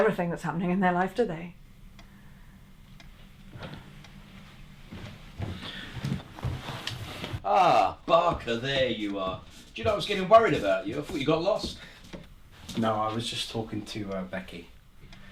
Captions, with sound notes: that's happening in their life, do they? (footsteps) - Ah, Barker, there you are. Do you know I was gettin worried about you? I thought you got lost. - No, I was just talkin to Becky.